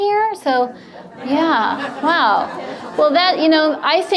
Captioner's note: audience laughs